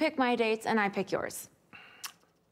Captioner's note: clicks tongue